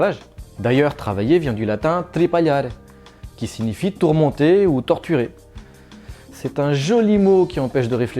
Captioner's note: in french